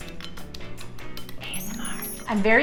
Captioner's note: fork tapping